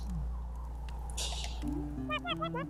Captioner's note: tee-heeing